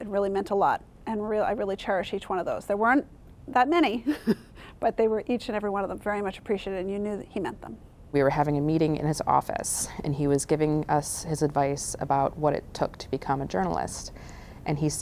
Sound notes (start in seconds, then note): 4.0 laughter